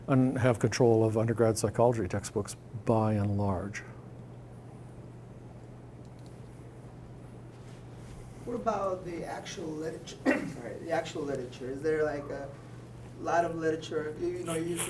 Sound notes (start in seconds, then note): 10.2 clearing throat